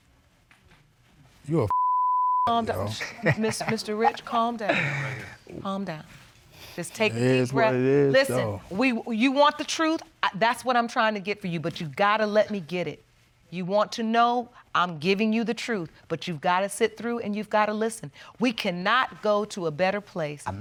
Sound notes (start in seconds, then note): 2.6 laughing